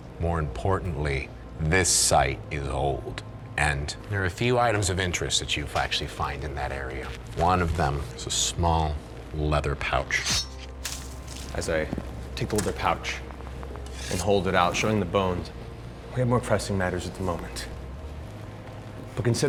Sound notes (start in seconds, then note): 10.2 clanging